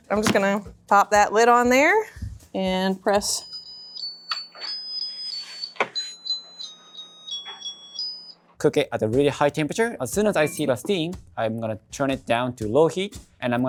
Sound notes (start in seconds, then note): 3.6 timer chiming